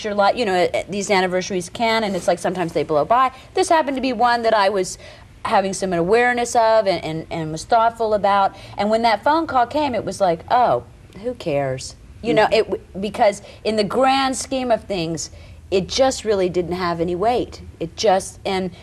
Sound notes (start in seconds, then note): none